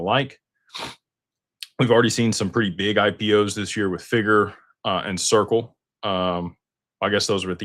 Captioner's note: snorts